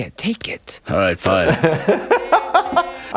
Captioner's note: laughing